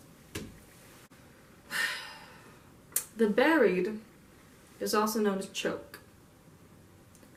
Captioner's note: sigh